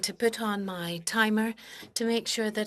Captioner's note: speaking French